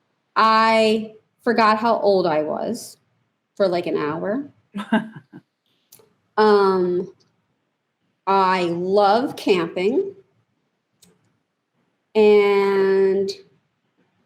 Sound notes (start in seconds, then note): 4.7 laughs